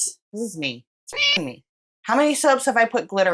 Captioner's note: meow